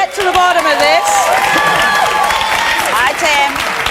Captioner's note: audience applauds